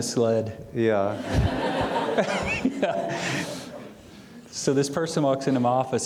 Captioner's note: audience laughing loudly